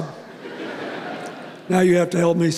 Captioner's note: laughter